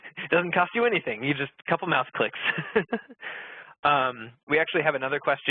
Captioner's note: laughing